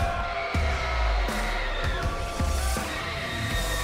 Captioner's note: crowd cheering